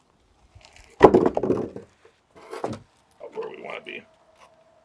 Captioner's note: wood thumping